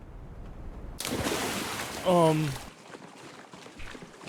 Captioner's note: water splashes